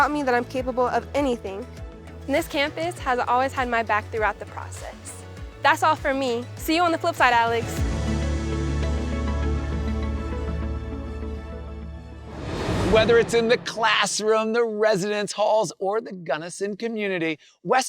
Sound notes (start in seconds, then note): 8.1 bright music; 12.1 transition whooshes